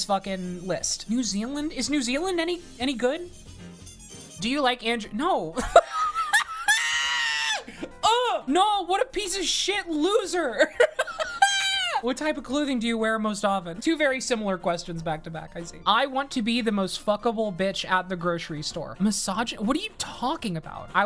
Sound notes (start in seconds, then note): 5.6 laughing; 10.6 laughing